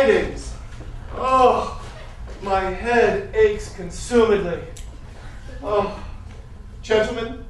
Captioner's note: groan